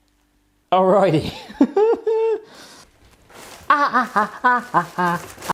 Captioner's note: laughs